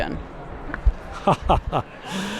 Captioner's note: wry laugh